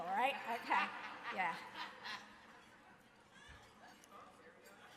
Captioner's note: audience laughing